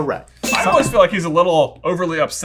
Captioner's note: bell dings